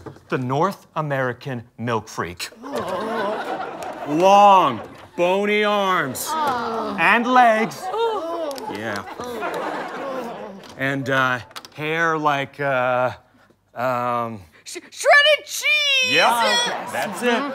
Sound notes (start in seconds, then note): 3.2 groaning; 6.8 groan; 7.8 collective groan; 9.2 audience laughter